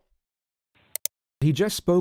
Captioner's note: click